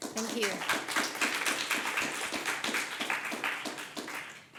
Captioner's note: audience applauds